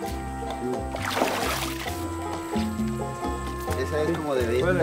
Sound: upbeat instrumental music; water splashing; speaking in foreign language

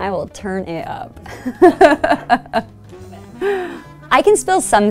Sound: laughing

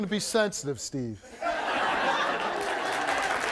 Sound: audience laughs; audience applauds

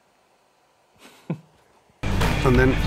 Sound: laughs

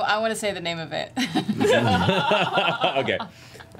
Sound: laugh

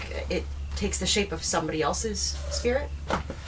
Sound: none

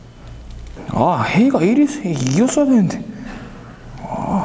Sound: grumbling

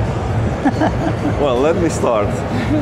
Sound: laughs

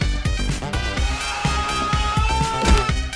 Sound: anger Sounds

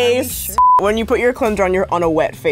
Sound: beep

